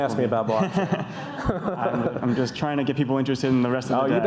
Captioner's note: audience laughs